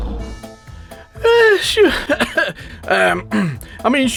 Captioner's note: clearing throat